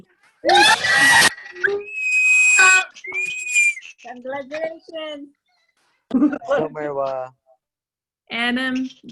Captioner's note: cheering